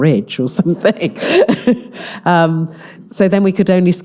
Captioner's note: all laughing